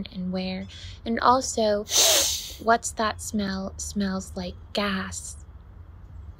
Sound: big sniff

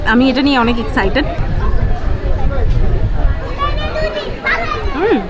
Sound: crowd

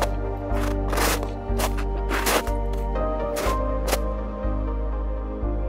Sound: snow crunching

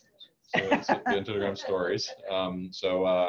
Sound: laughing

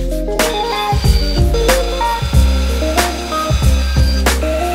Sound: saw grinding

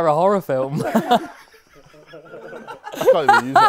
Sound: people laughing

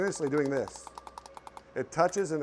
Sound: wire tapping

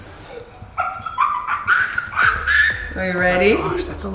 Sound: laughs

